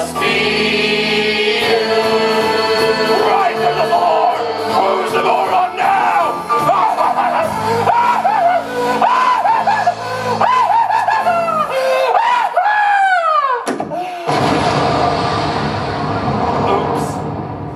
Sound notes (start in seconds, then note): 3.4 shouting; 6.4 maniacal laugh; 14.2 huge crash noise